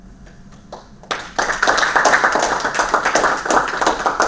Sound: audience applause

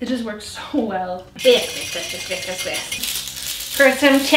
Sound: stirring

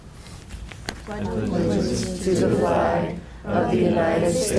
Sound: crowd

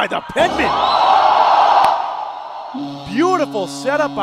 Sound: crowd cheering

